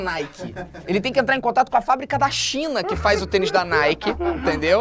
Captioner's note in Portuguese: risadas